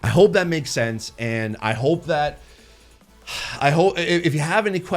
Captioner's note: sighs tiredly